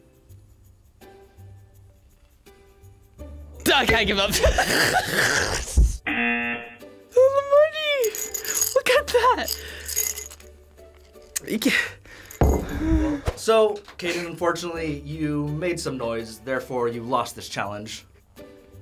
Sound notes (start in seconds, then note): 4.3 laughs; 6.1 buzzer rings; 12.6 sighs